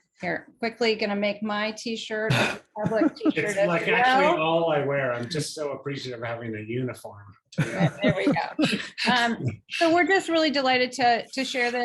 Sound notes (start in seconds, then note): 7.5 chuckles